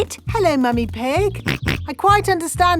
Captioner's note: snorts